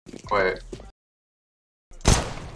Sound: more silence

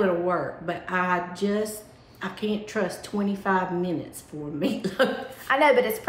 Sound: laughs

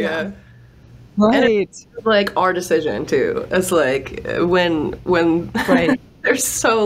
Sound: laughs

